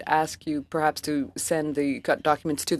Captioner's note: speaking French